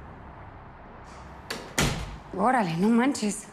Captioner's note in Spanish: Puerta se cierra